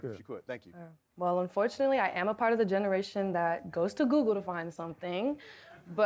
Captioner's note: none